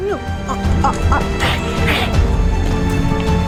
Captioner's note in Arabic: هسهسة